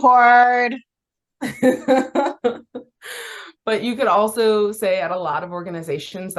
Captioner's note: laughs